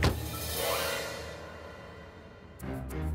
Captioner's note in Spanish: Portazos